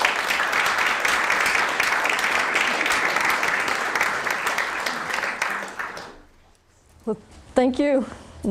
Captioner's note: applause